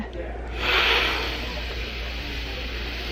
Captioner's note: sniffs